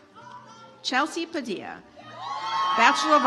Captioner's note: audience applauds